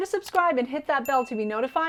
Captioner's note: bell dinging